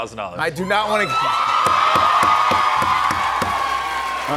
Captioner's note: cheers and applause